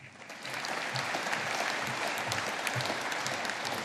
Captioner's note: audience applauding